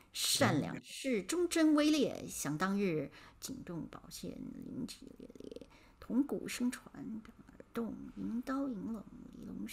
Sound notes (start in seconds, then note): 0.5 speaking in Mandarin